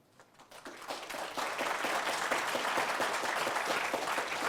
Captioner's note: audience applauding